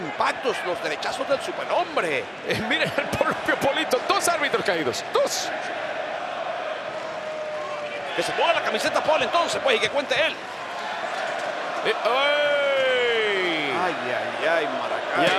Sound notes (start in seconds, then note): 2.5 laugh; 7.0 applause